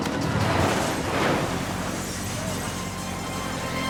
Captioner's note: vehicles slam